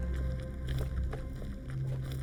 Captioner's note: none